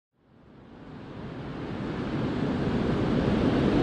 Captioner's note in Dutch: Geluid van de branding